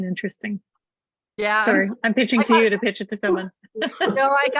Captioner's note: laughter